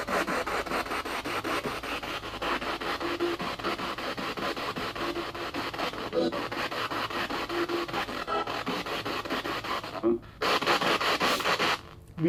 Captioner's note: radio noise from the spirit box